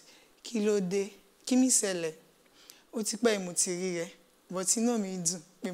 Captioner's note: speaks in a foreign language